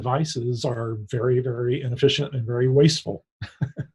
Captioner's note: laughs